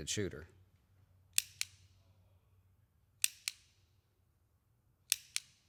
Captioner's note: pistol clicking